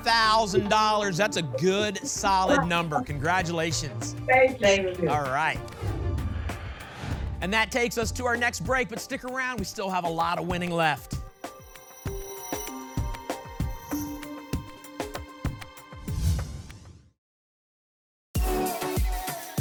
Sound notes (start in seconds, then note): 5.7 whoosh; 16.0 whoosh